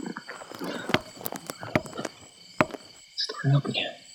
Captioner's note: wood tapping